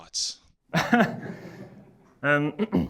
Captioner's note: audience laughing